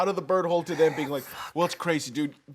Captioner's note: whispers